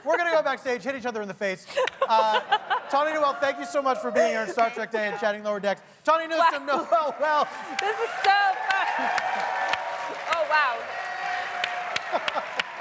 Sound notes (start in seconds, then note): 1.7 laughter